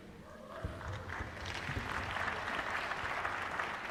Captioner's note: applause